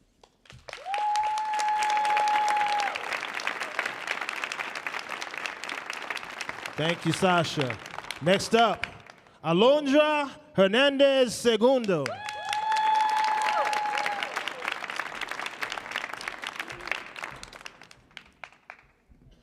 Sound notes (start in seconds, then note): 0.4 audience applauding; 11.8 audience applauding